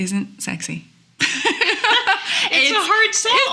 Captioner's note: laughing